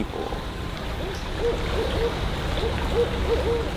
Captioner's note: water trickling